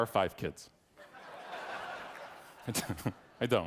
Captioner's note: audience laughing; laughs